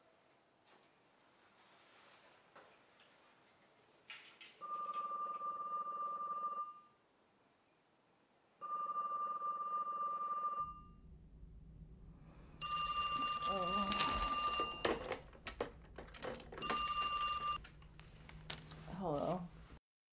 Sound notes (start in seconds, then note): 4.6 phone rings; 8.6 phone rings; 12.6 phone rings